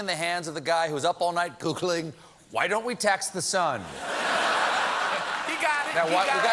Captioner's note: laughter